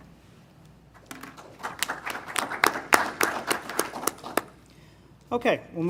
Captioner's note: applause